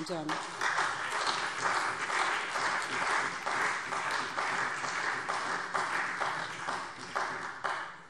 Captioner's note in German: Beifall SPD und vereinzelt Freie Demokraten